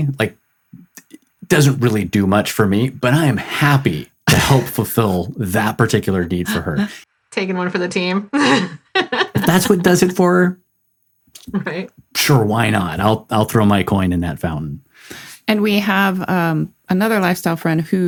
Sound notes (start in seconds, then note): 8.3 laughs